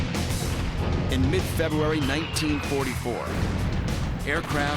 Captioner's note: bombs whistling; explosions